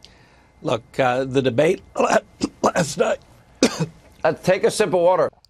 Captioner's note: choking up